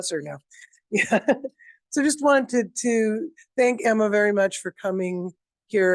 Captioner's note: chuckles